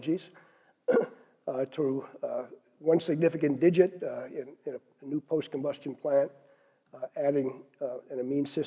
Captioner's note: cough